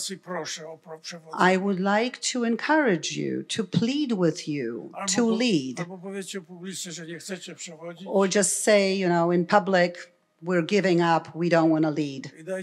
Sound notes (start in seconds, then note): 0.0 foreign language; 6.0 foreign language